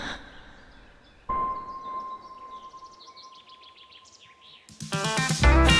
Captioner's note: birds chirping; tender music; bright upbeat music